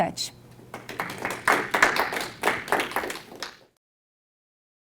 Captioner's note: audience applauds